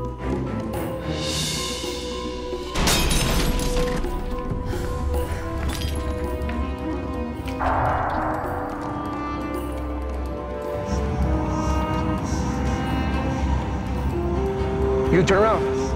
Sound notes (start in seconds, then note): 2.8 vase shattering; 10.2 voices muttering